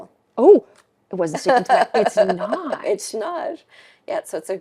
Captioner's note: laughing